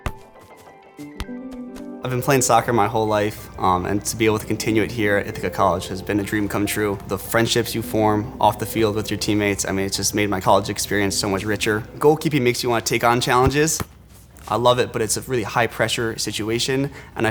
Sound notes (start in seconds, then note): 0.0 ball thudding; 0.2 gentle music continues; 13.3 ball thuds